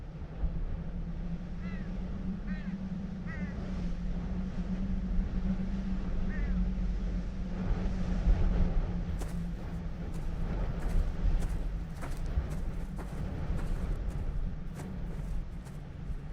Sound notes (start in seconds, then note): 4.7 howling wind; 9.1 footsteps